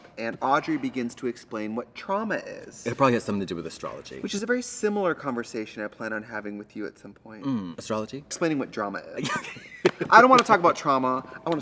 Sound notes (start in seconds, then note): 9.2 Katya laughs